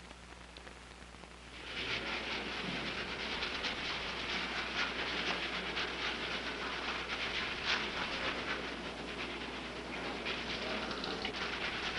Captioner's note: scrubbing noises